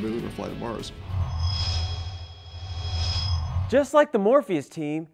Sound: sound Effects

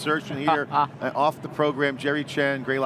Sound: laughs

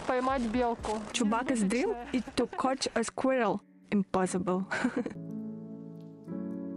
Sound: laugh

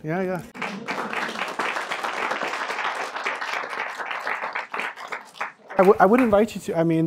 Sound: applause

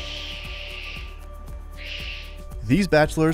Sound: Reed squawks

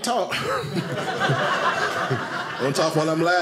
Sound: audience laughing

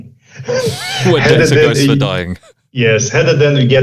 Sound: chuckles

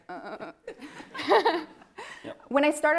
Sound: laughing

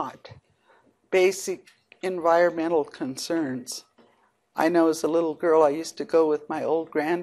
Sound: none

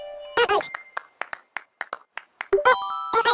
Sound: clap

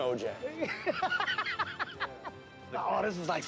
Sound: laughs

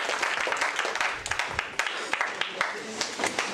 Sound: applause

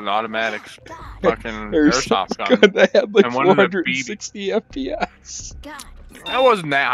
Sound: laughs

